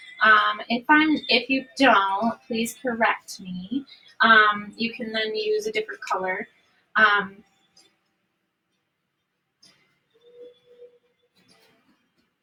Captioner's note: humming